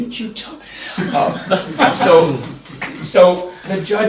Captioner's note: laughter